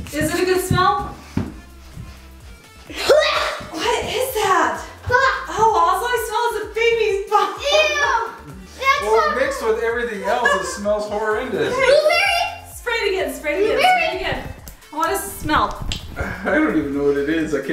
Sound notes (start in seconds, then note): 2.9 coughs; 5.2 gagging